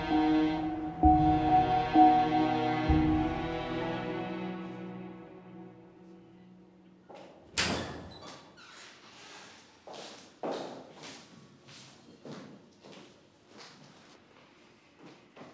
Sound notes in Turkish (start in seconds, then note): 7.5 Kapı açıldı